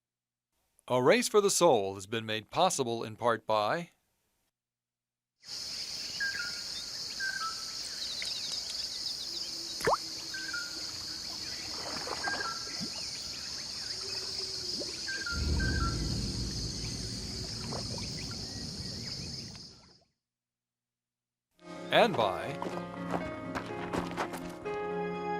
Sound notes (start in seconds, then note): 4.6 birds chirping; 10.7 water splash